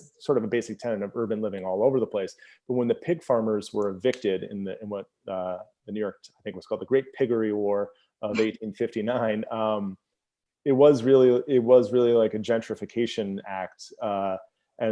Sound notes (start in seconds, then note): 8.3 laughs